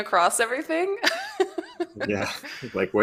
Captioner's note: laughs